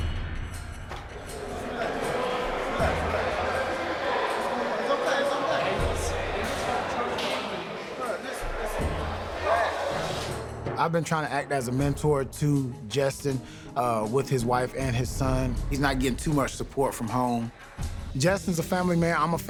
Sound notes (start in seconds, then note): 0.0 tense music; 1.2 murmurs